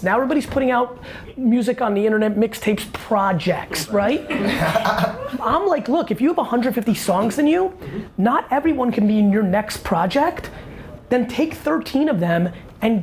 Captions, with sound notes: now everybody's putting out music on the internet, mixtapes, "projects", right? (laughing) I'm like, look, if you have 150 songs in you, not everyone can be in your next project, then take 13 of them,